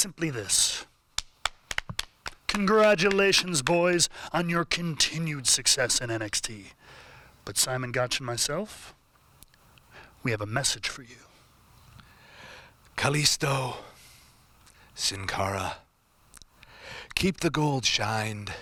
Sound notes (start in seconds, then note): 1.4 applause